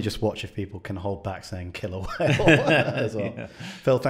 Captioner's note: laughs